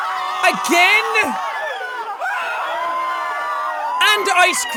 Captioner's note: screaming